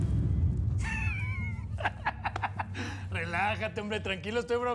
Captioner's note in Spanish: risas